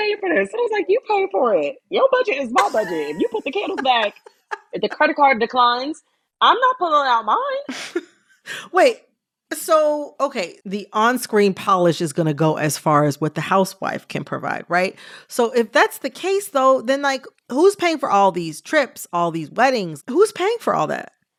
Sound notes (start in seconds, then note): 7.7 laughter